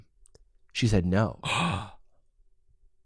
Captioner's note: gasps